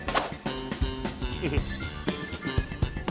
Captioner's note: chuckles